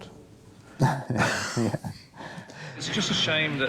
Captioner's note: chuckles